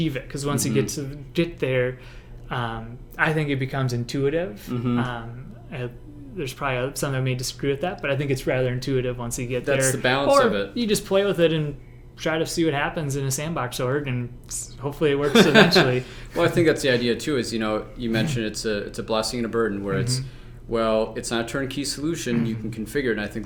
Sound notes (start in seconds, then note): 15.2 laugh